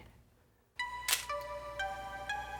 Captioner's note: camera clicks